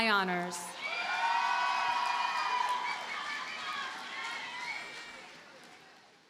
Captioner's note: audience cheers and applauds